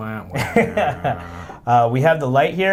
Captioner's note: laughs